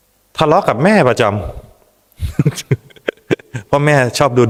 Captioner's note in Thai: เสียงหัวเราะ